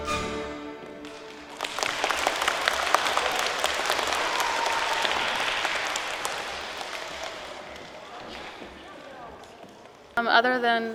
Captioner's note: applause